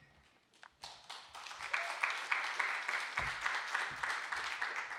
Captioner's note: audience applauding